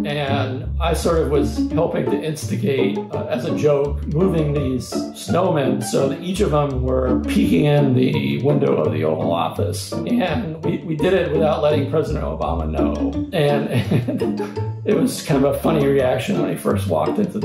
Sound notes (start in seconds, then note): 13.6 laughter